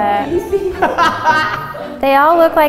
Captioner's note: laughs